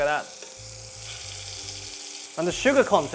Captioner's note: sizzling sound